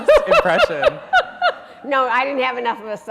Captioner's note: laughing